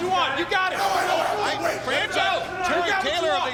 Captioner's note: people chattering